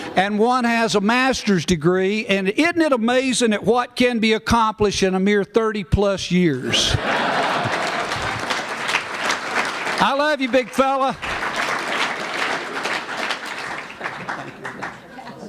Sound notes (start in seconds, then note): 6.6 laughter; 7.0 applause